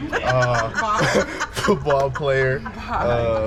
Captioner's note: laughs